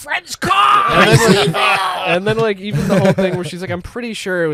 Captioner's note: screaming